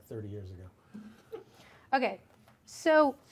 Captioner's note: man chuckles